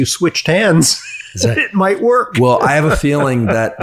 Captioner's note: chuckles